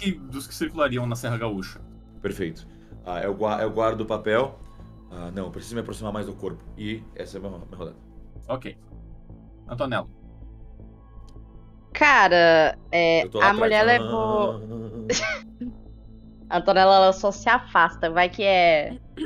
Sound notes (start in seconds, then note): 13.2 laughs